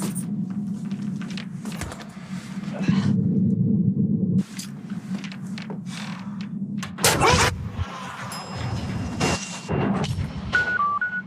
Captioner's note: commercial continues with various machine sounds